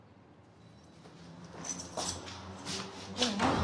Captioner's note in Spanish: tintineo de llaves